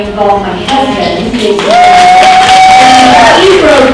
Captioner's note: applauding and cheering